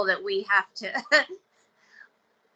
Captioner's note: chuckling